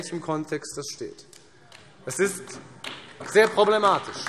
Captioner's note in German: Vereinzelter Beifall AfD